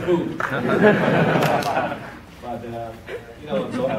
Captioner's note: audience laughs